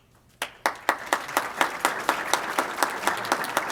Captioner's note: applause